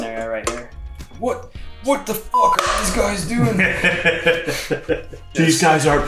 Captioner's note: laughs